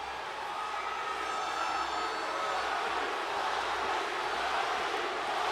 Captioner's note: crowd chanting